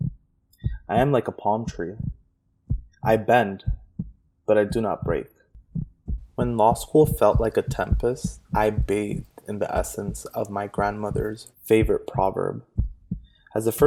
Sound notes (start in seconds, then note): 5.6 faster heartbeat; 12.4 heartbeat slows